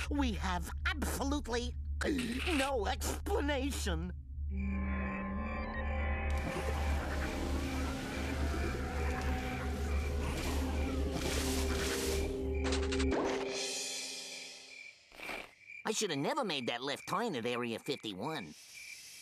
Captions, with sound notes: WE HAVE ABSOLUTELY... [gulps] ...NO EXPLANATION. [crickets chirping] [machine whirring] I SHOULD HAVE NEVER MADE THAT LEFT TURN AT AREA 51.